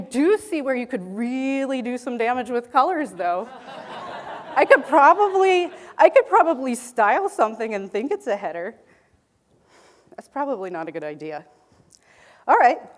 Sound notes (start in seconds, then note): 3.4 audience laughing